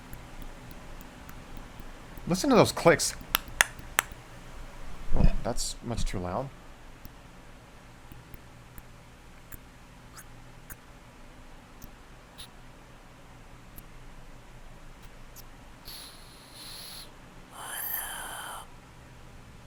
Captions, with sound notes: [Pink Trombone makes clicking sounds] Listen to those clicks [makes mouth clicks] That's much too loud... [Pink Trombone exhales]